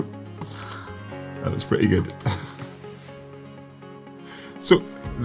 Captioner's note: laughs